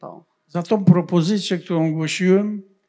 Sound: foreign language

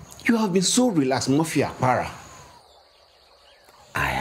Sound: speaking in foreign language

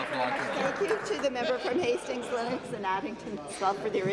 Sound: applause

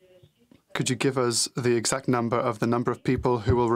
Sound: speaking french

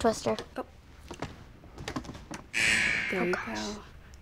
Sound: buzzer

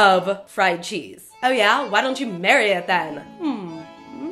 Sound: mocking

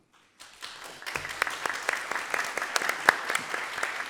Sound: applause

